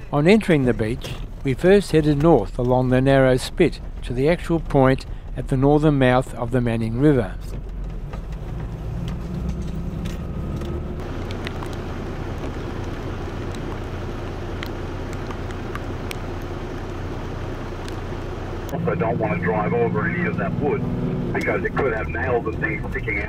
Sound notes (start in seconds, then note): 7.4 vehicle sounds